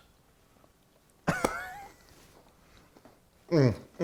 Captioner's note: laughing